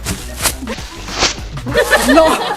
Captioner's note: loud rip; laughs